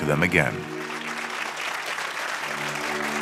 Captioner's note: applause